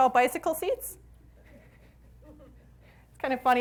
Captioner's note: audience laughs